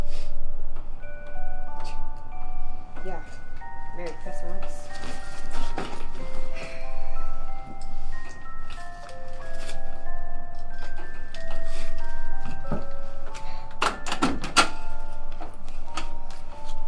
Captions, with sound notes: (Claire sniffles) (scoffs) Yeah, Merry Christmas. (Claire sighs)